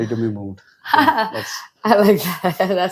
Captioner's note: laughs